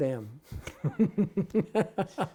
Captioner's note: laughter